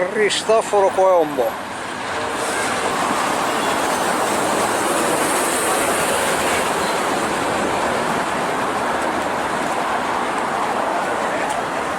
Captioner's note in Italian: Applauso